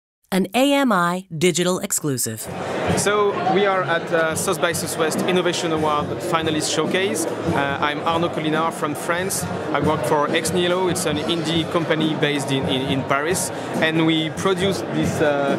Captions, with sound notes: An AMI digital exclusive... [CROWD NOISE] So, we are at the South by Southwest innovation awards Finalist's Showcase. I'm Arnaud Colinart from France. I work for Ex Nihilo. It's an indie company based in Paris, and we produced this, ah...